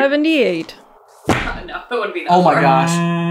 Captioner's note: thud